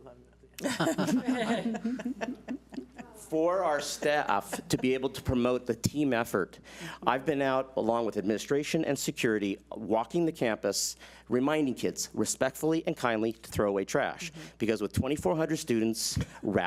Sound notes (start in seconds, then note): 0.6 board laughs